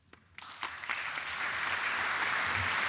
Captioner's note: applause